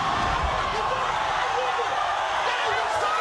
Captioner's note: audience and guests yelling; audience cheers